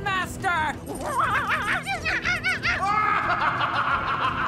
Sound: monkey noises; maniacal laughter

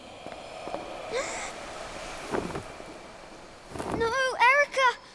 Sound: girl laughs; boy gasps

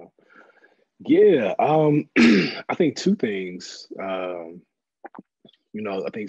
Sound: cough

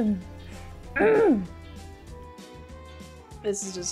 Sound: clearing throat

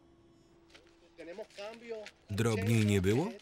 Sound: speaking in a foreign language

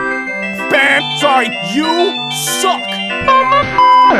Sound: imitating buzzer noise

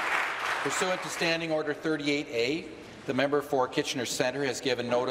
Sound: applause

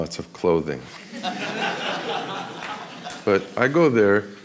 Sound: audience laughs

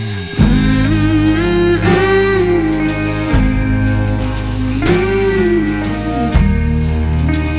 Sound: humming "Mmm Mhmm"

